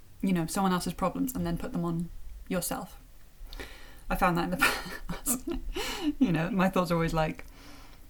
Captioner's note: chuckle